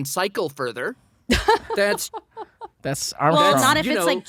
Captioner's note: laughs